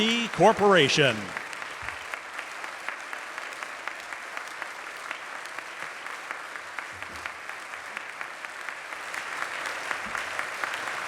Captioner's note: applause